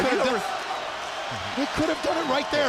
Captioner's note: crowd chatter; crowd cheering